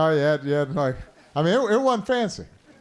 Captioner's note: laughter